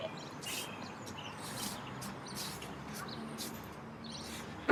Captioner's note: raking leaves